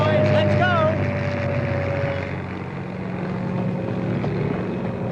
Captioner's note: airplane flying